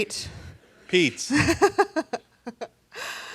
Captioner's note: laughs